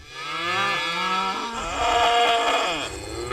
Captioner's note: cows mooing